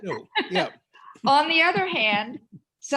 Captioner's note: laughter